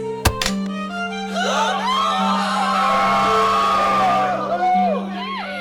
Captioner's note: gasps and louder cheers